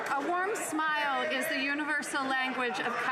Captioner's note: some Applause